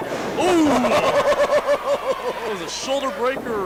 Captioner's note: laughs